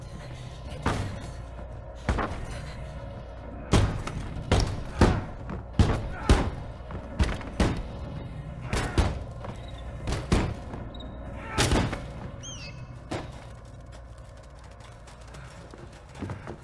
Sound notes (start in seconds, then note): 0.1 door banging; 9.3 bird noises